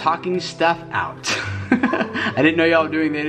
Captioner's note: laughs